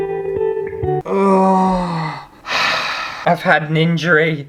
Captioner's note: sad Music; sigh